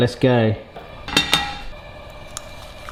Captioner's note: gas flame hissing; pan clanks